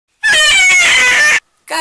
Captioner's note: distressed banshee cry